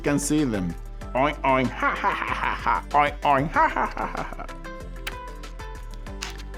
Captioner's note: imitates pigs laughing